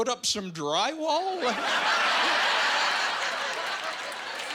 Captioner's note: laughing and applauding